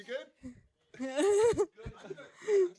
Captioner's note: laughs nervously